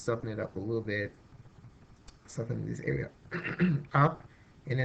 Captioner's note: clears throat